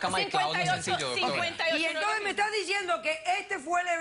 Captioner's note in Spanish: Hablan al unísono